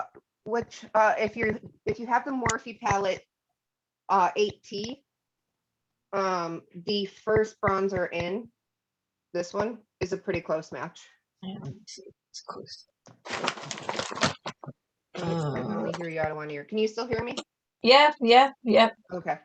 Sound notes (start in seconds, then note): 13.2 rummaging